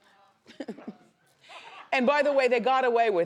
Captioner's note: Wendy laughs